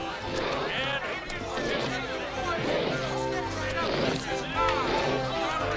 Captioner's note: elephant snuffling; playful accordion music